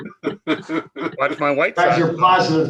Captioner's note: members laughing